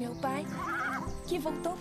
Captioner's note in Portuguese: cavalo relinchando